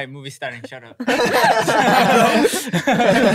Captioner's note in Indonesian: tertawa